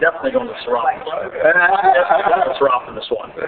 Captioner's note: laughing